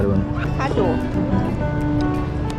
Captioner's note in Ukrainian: Сьорбання